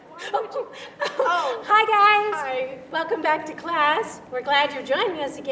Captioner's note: laughing